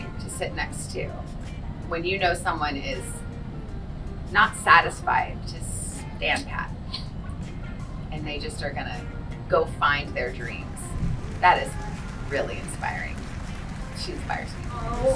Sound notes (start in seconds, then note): 13.3 audience applauds